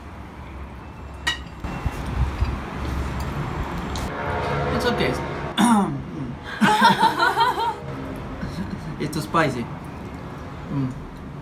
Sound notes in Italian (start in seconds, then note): 6.5 laugh